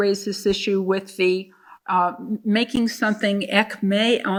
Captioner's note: speaking in foreign language